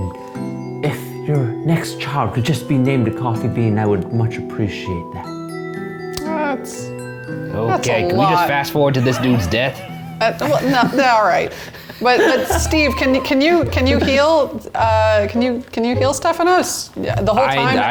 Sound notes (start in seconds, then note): 12.2 all laughing